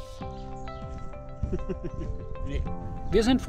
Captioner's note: laughs